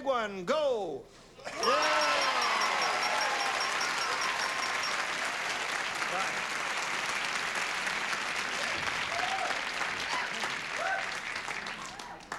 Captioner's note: cheers and applause